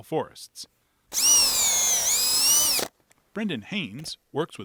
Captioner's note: drill grinding